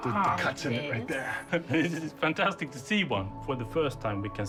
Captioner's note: laughing